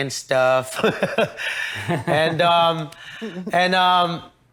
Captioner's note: everyone laughs